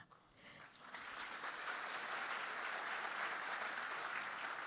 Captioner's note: audience clapping